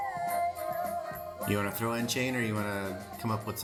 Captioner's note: crying; singing